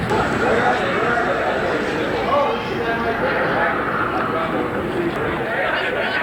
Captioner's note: background chatter